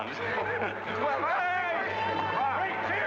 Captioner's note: men joking and chattering